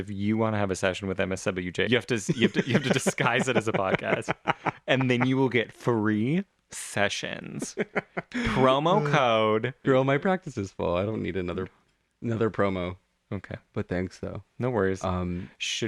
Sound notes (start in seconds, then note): 6.7 laugh; 13.0 laugh